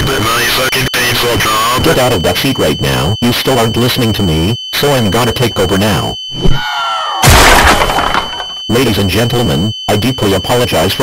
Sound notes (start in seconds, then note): 7.2 massive crash